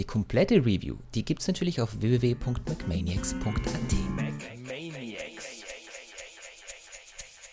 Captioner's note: in German